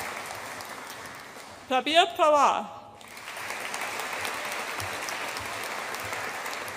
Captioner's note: audience applauds